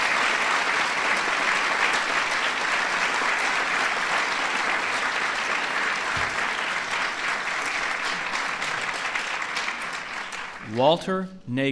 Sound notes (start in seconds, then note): 2.5 applause